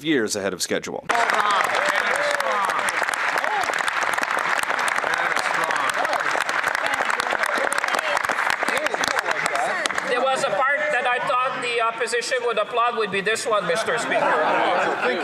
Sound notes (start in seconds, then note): 5.4 some Applause